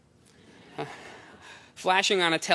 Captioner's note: laughter